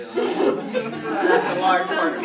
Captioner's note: everyone laughs